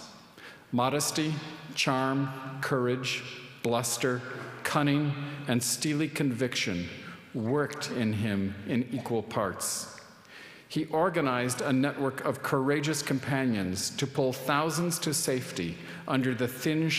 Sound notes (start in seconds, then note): none